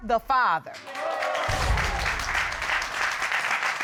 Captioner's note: audience cheering